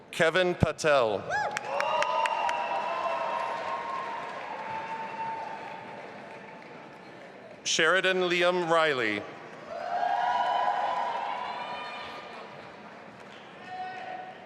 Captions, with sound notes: Kevin Patel. (audience applauding and cheering) Sheridan Liem Reilly. (audience applauding and cheering)